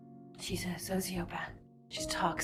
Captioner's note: voiceover